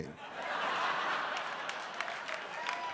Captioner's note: audience laughs; audience applauds